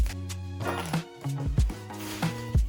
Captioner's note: boxes rustling; upbeat music; metal pings